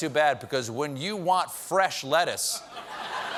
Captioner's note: audience reacts